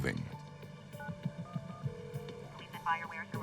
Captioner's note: phone ringing; on phone